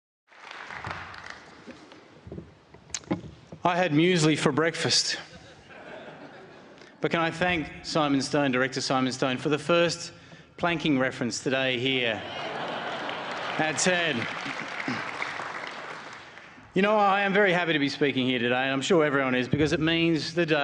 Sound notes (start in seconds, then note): 0.2 applause; 5.2 laughter; 14.2 laughter